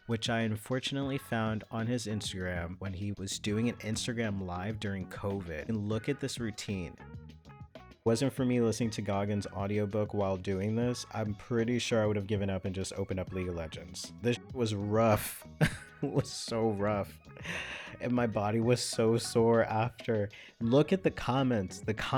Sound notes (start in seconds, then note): 15.5 laughs